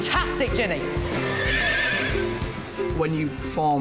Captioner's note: neighs